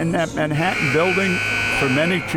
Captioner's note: buzzer